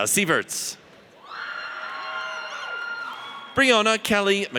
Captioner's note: audience cheers